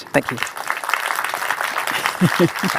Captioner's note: applause